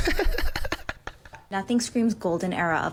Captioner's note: laughs